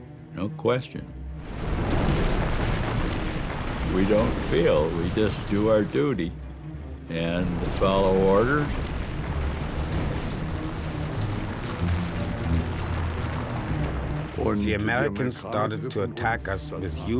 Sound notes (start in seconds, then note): 1.8 tank engines roaring; 7.3 tank engines roaring